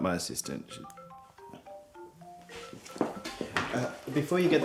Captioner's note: phone rings